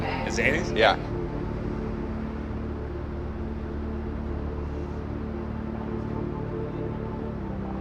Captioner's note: engine humming; gentle music